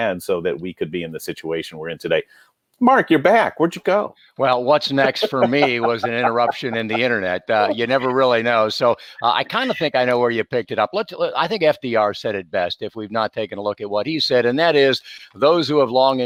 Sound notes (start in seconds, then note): 4.9 laughs loudly